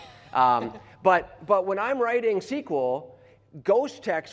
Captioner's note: laughter